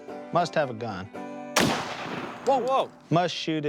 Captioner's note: gun firing